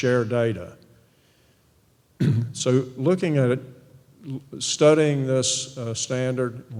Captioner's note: cough